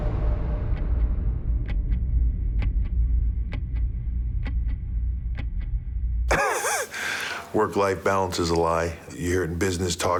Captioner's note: laugh